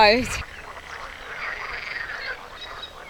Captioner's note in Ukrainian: жаби кумкають